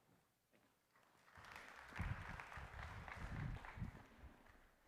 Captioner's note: applause